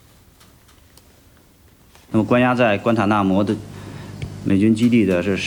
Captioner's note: speaking foreign language